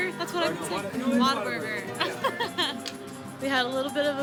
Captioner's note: laughing